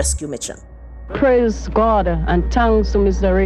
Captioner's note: soundbite of archived recording